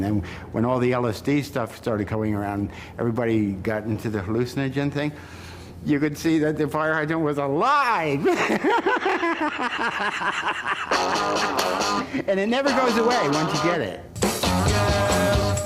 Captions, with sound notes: And then, when all the LSD stuff started coming around, everybody got into the hallucinogen thing, you could see that the fire hydrant was alive. [LAUGHTER] And it never goes away once you get it.